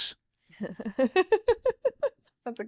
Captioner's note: laughing